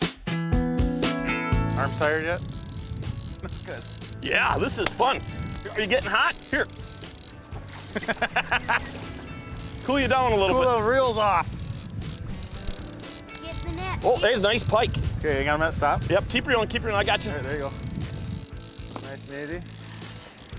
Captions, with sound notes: Arms tired yet? No? Good. Yeah this is fun! Are you getting hot? Here. (splashing) (laughing) Cool you down. Cool those reels off! Get the net. Oh, nice pike! Keep reeling, I got you! Nice and easy.